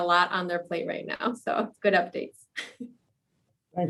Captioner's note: laughs